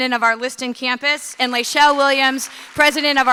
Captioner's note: audience clapping